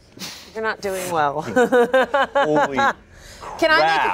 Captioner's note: laughs